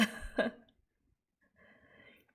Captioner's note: chuckles